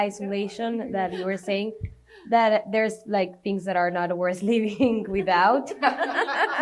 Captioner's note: laughter